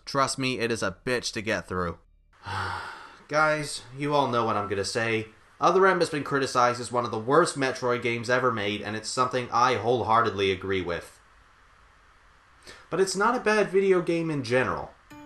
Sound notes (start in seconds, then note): 2.4 sigh